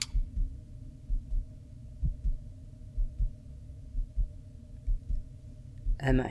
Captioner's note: heartbeat